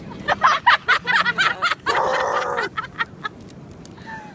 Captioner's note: lots of laughter